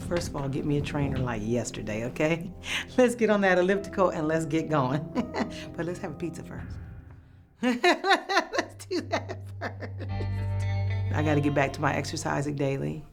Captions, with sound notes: First of all, get me a trainer like yesterday, OK? Let's get on that elliptical, and let's get going. But let's have a pizza first. [laughs] Let's do that first. I got to get back to my exercising daily.